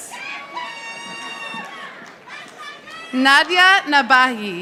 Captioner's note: audience applauding